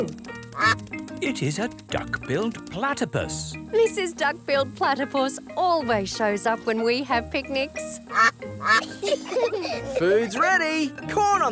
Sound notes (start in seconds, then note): 7.5 quacking; 8.5 children giggle